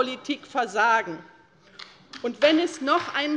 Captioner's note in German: Beifall bei der LINKEN